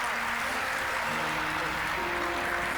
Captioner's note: applause; uplifting music